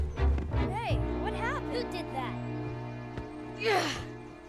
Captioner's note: grunting